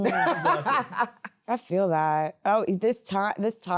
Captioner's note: laughs